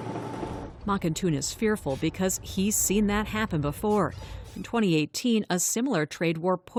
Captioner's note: voice-over